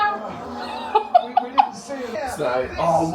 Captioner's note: laughs